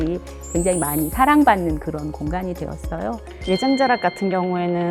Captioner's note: sparkling sound effect